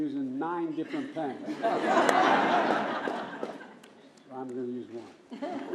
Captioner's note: laughter